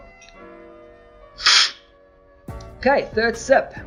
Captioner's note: slurping